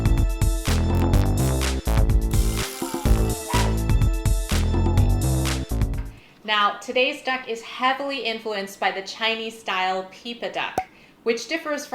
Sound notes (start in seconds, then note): 1.8 dog bark